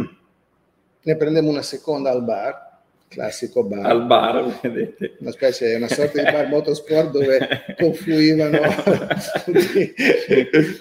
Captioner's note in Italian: Risate